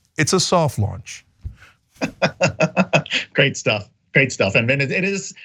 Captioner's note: laugh